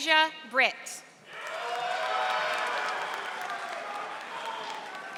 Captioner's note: audience applauding